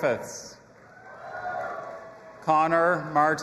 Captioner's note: audience applauding and cheering